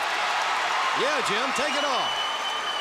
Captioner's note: crowd cheering